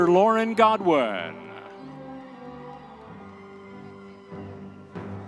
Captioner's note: audience members cheering